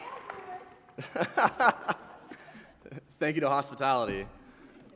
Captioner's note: laughter